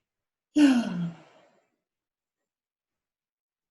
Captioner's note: sigh